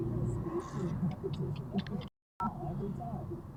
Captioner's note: tsk